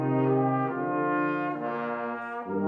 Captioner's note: none